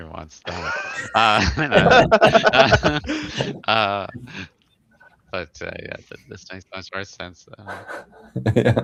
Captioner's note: laughter